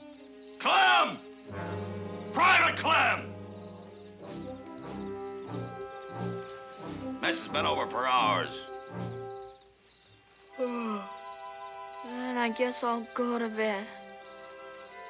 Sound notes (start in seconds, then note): 10.5 yawns